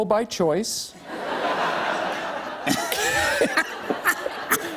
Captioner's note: laughter